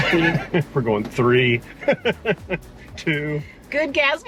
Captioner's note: laughs